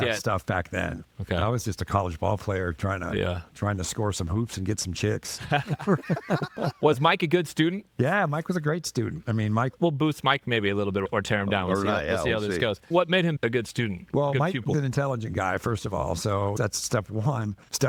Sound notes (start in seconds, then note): 5.4 laughing